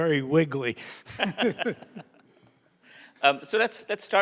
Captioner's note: both laugh